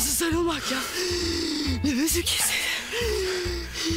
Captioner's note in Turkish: Şirin nefes nefese